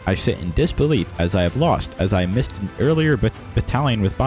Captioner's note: none